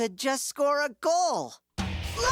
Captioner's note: groans